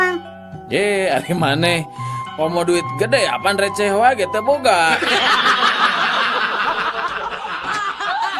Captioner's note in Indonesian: tertawa